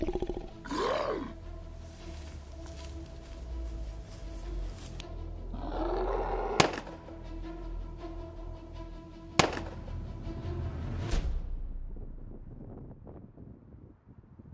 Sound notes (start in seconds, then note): 5.5 zombie roar; 6.6 gun shot; 9.4 gun shot